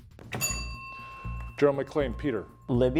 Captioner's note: bell ringing